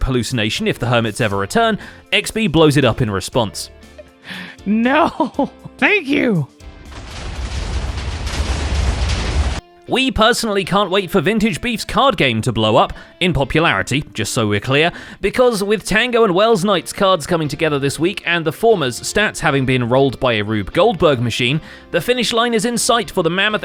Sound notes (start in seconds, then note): 5.0 nervous laughter; 6.7 explosions